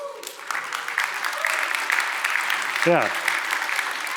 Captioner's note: applause